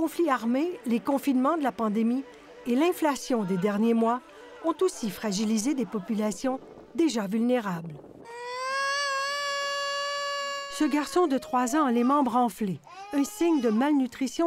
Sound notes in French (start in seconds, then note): 8.2 pleurs